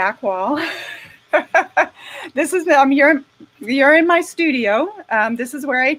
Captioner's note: laughing